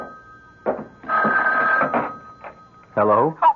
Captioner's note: phone rings